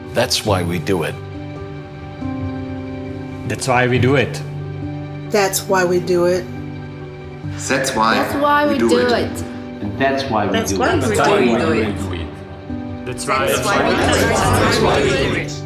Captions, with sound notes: That’s why we do it. That’s why we do it. That’s why we do it. That’s why we do it (multiple voices). That’s why we do it (multiple voices). That’s why we do it (multiple voices).